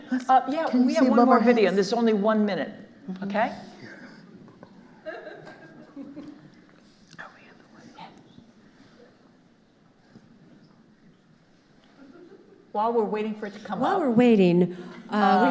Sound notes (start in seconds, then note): 4.7 audience member laughing; 6.9 whispering